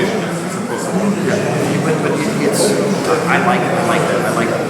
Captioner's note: speaking in a foreign language